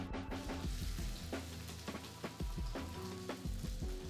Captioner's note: gentle music; soft sizzling